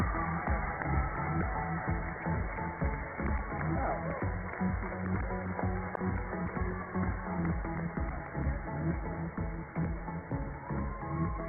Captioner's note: cheers and applause